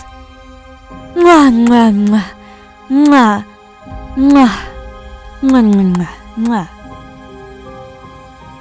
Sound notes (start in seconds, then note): 1.1 kissing noises